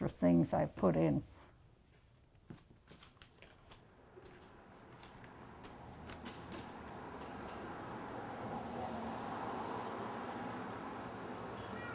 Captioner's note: sound of traffic, and children and other people talking. Clanking of silverware